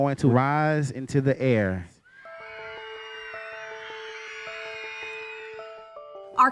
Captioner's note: excited screaming